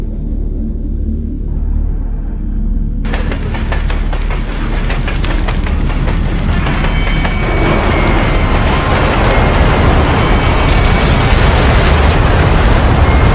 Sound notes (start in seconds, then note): 3.0 spacecraft rattling; 5.4 flames whooshing; 6.6 spacecraft creaking; 10.5 explosion booms